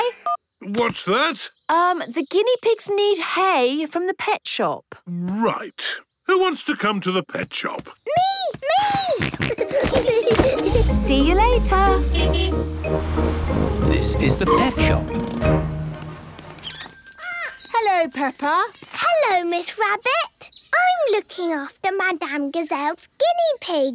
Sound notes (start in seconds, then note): 8.3 snorting; 8.8 kids giggling; 10.9 honking; 16.6 bell jingling